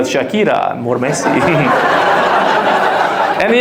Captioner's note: audience laughs